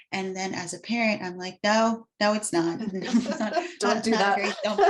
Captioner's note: both laugh